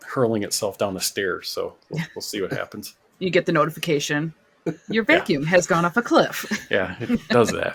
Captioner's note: laughter